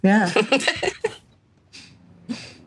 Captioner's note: laughs